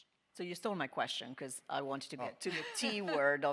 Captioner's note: panelists laughing